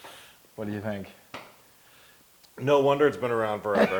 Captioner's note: laugh